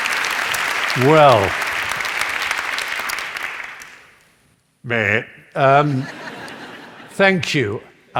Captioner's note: comical noise; laughter